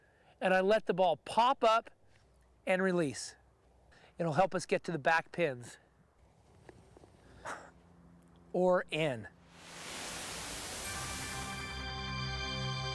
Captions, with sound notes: and I let the ball pop up and release. It'll help us get to the back pins. [CHUCKLES] Or in. ( dramatic theme playing )